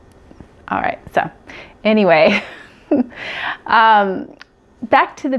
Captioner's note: laughs